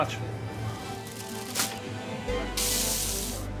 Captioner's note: paper rustling; meat sizzling